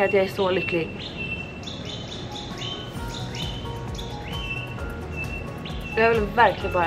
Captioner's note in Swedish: Fågelljud